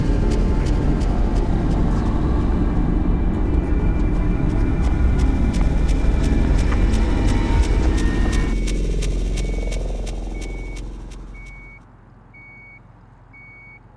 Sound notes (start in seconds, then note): 6.9 rapid footsteps; 8.7 ominous music; 10.4 high pitched beeping